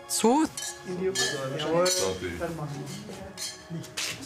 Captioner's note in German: Gläserklirren, undeutliche Stimmen